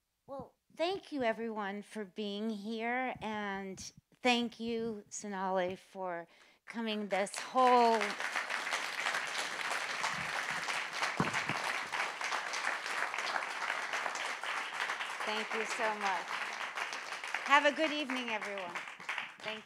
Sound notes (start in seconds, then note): 8.0 audience applauding; 16.7 audience applauding